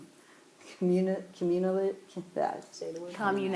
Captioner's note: stuttering